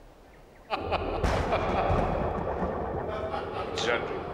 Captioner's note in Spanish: Zadrim riendo